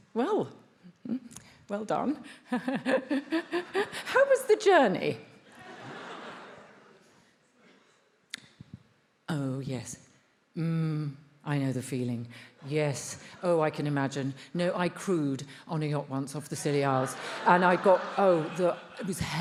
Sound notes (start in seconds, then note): 2.7 laughs; 5.5 attendees laughs; 16.8 attendees laughs